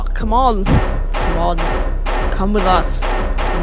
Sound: over several smacks

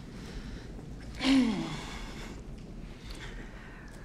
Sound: clear throat

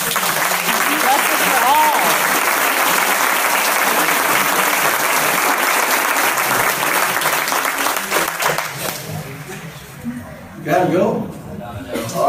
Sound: applause

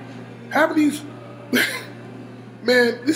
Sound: giggles

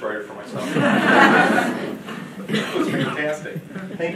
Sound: audience laughing

